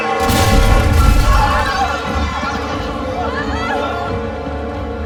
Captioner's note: screaming